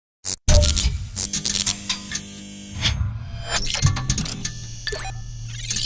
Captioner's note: electricity buzzes; machinery rattles